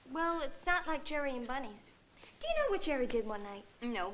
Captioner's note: none